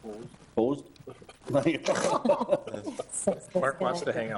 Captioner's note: all laughing